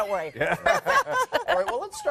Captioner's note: laughing